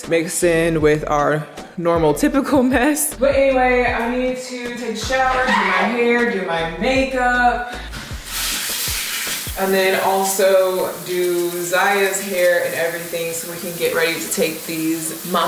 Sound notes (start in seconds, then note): 8.5 water running